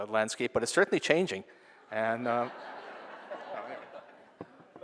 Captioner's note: laughing